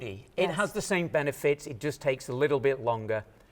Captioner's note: none